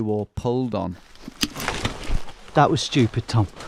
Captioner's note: branch snaps